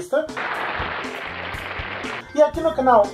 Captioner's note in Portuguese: Sons de aplausos